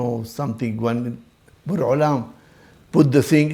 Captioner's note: Hebrew